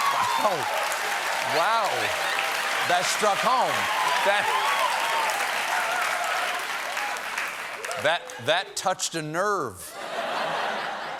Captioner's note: cheers and applause